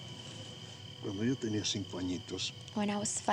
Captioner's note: speaking spanish